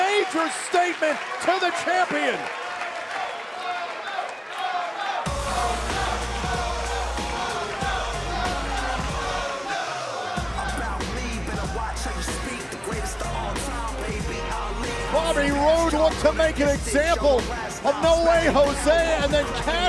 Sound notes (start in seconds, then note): 5.0 fans chanting